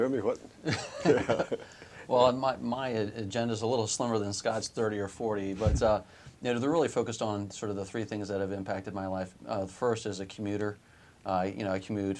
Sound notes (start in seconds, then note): 3.3 laughter